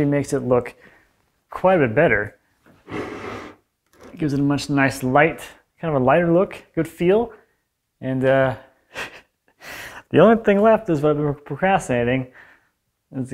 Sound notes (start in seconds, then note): 3.9 wood scrapes; 8.7 laughs